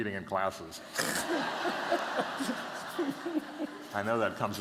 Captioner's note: laughter